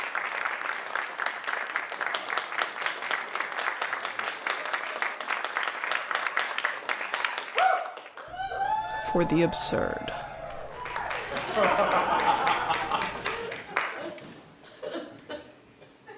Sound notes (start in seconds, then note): 11.7 applause